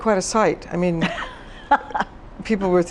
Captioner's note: laughs